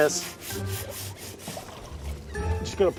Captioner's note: wet scrubbing